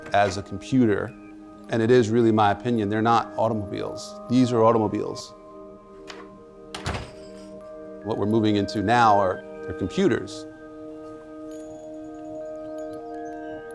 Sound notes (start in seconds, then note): 6.7 door closes